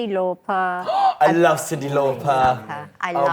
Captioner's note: gasps